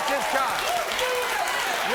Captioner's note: audience cheers